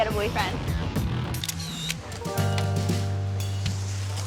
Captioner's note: camera shutter clicking